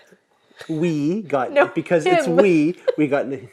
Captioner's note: laughs